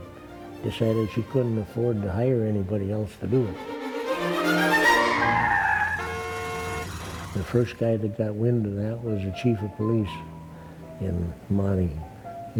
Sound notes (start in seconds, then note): 3.8 classical music; 4.2 car horn blaring